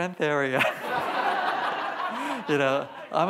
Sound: laughs; audience laughs; laughs

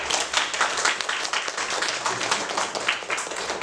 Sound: clapping

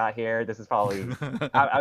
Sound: laughs

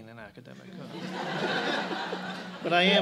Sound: laughter

